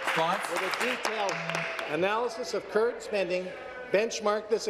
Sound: applause

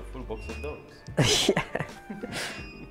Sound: laughing

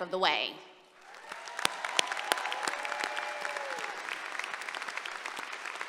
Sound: applause and cheering

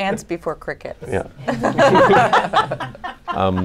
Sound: laughter

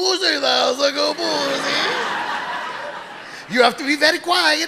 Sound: audience laughing

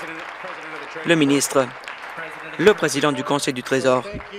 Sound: applause

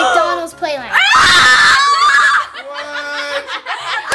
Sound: screaming

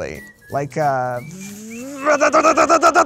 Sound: imitates malfunctioning car

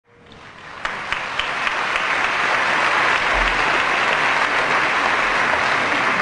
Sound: applause

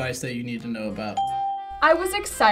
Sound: bell rings

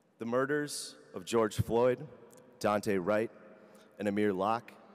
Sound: none

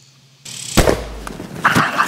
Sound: gun shot

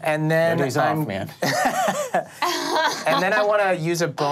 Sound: laughs

